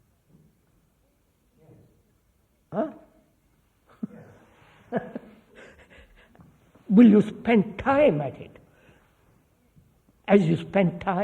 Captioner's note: laughs